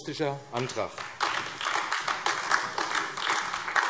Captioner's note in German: Beifall AfD